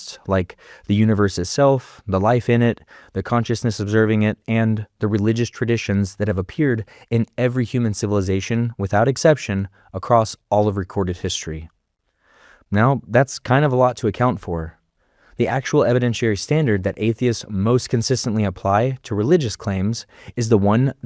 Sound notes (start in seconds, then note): none